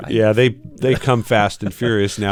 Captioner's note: laughter